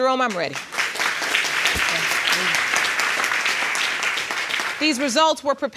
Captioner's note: audience applauding